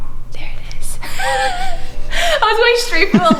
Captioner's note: laughs